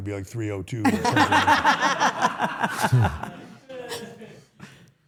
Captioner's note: everyone laughs